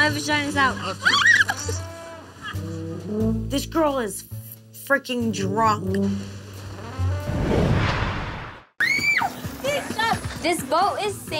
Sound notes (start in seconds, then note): 1.4 yelling; 6.7 goofy trombone music; 7.0 whooshing; 9.3 yelling